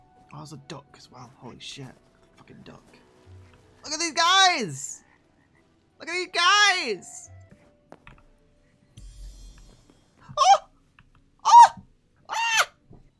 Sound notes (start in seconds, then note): none